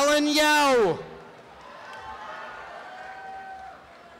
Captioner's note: applause and cheering